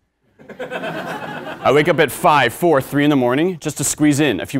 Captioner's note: laugh